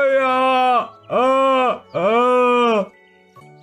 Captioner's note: sobbing